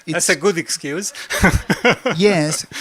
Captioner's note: laugh